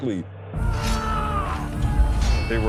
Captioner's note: shouting